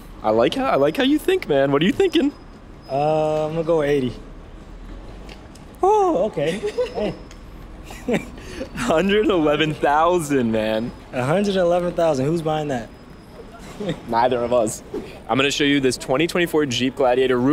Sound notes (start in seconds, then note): 6.3 laughing